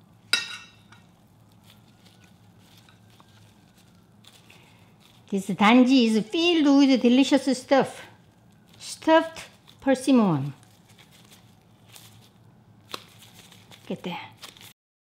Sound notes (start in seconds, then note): 0.3 spoon clinks; 12.6 gloves rustling